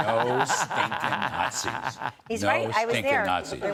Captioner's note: laughter